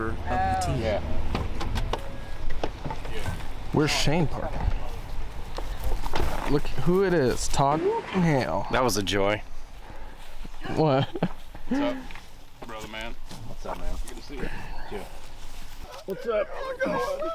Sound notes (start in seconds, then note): 10.5 laughing